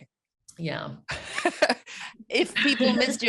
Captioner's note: laughs